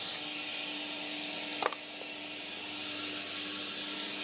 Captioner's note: wood thudding